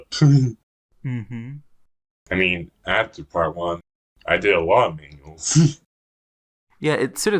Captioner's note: laughs; laughs